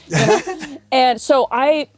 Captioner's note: giggles